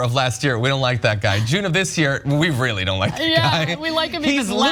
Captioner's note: laugh